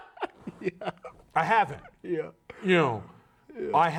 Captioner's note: laughing